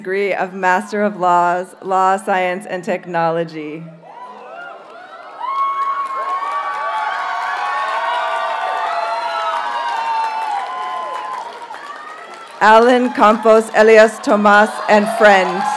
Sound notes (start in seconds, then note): 3.5 audience cheers and applauds